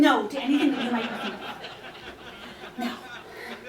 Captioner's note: audience laughter